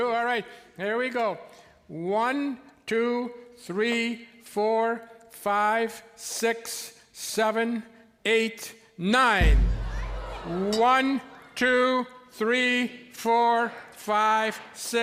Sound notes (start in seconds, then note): 9.4 audience oohs and ahs